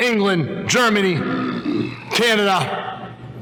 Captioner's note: growls